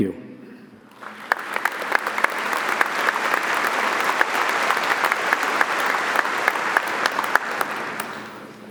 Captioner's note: audience applauding